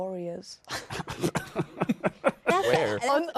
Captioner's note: laughs